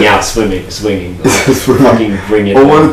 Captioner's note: laughs